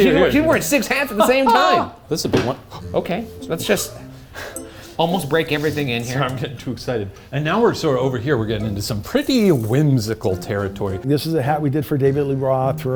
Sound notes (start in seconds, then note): 2.7 stool thumping; 2.8 playful music